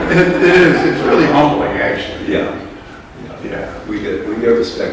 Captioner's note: laughter